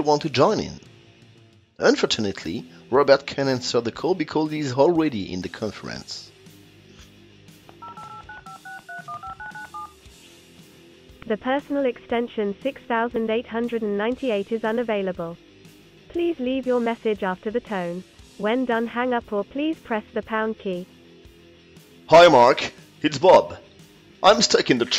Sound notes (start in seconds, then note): 7.7 dialing sound